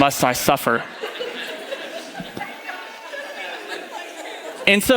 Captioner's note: audience laughing